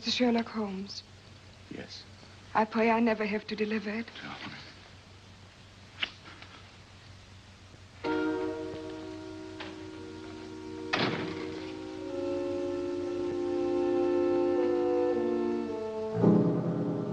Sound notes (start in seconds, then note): 10.8 door closes; 13.5 ominous music